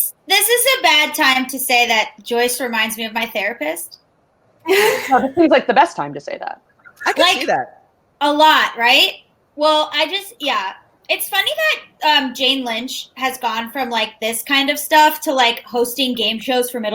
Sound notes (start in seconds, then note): 4.6 laughs